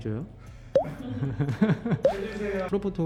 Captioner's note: everyone's laughing